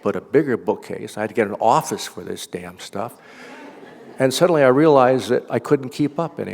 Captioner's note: laughter